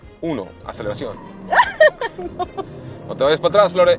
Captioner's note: laughter